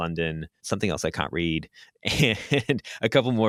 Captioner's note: laughs